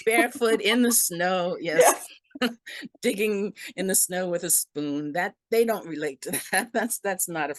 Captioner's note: laugh